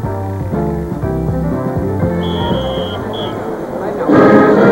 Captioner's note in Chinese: 鳥叫聲